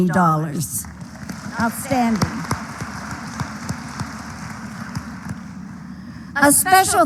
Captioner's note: applause